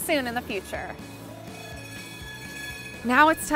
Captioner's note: bell ringing